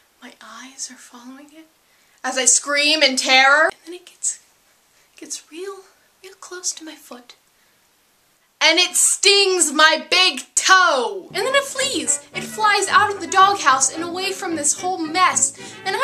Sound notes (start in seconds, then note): 2.1 yelling; 5.4 quietly; 7.9 shouting